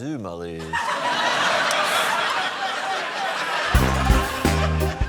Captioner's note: laughter; chortles